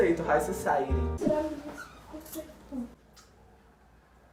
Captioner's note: girl whispering at the back